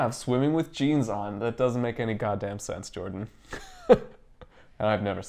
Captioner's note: chuckle